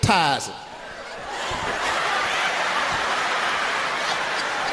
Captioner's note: audience laughs